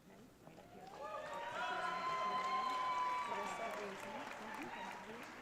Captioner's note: audience cheering